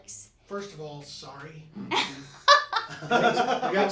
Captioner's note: laughing